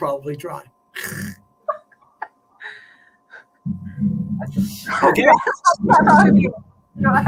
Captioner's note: laughter